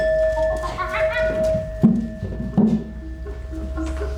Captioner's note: monkey sounds